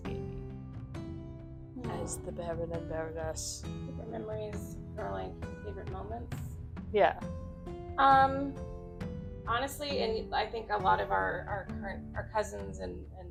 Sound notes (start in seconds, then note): 0.7 hushed Villianous tone